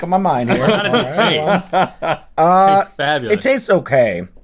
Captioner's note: Rhett laughs